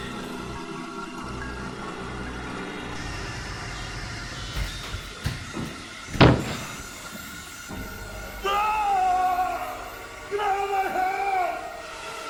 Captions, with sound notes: (yelling) Get out of my head!